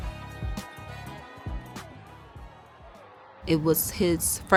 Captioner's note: crowd cheering